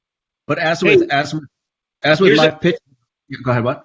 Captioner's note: both stammer over each other